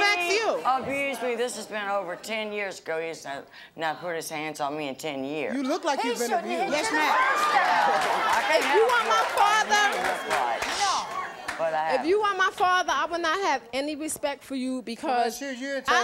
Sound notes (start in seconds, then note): 9.5 audience yelling